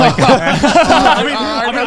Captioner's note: all laughing loudly